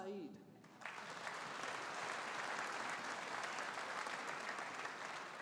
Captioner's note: audience applauding